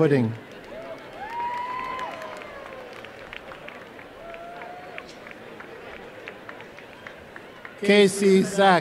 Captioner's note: applause and cheering